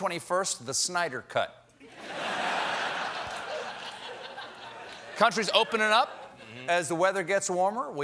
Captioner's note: laughter